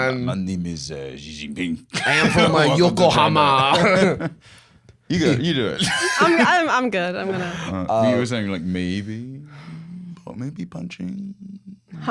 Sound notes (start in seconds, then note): 5.2 normal voice